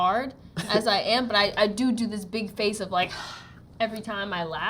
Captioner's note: exhales